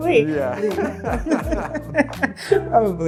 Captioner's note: woman laughing